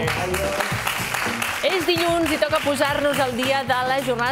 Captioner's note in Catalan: aplaudiments